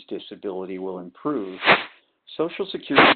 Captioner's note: sliding static